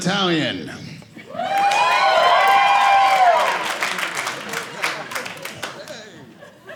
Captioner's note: audience cheering